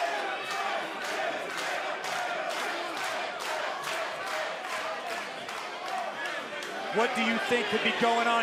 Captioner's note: crowd cheering